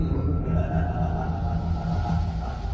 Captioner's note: background laugher